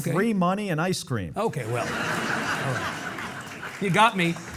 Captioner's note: audience laughing